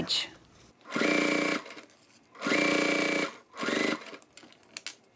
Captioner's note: sewing machine whirs